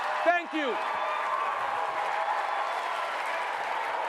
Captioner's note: applause